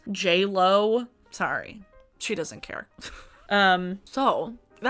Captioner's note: laughs